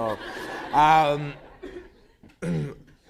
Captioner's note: laughter